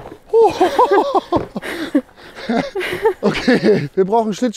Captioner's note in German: Gelächter